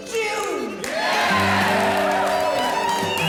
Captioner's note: crowd cheering